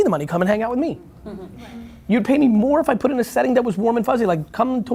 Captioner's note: laughing